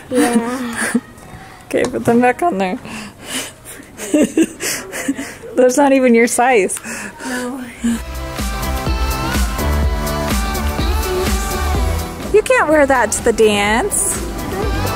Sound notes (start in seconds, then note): 3.6 laughs; 8.0 upbeat dance music continues